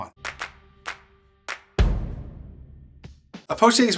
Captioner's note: hands clapping